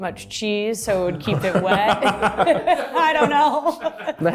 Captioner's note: group laughs